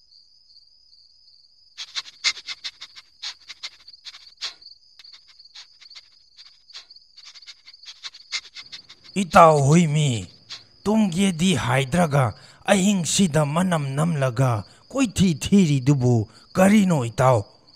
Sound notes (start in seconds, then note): 1.8 sniffing